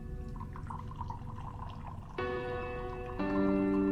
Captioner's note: wine trickling